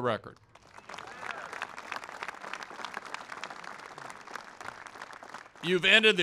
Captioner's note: applause